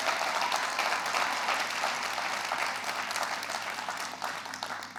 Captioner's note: audience cheering